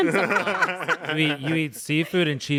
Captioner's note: everyone laughs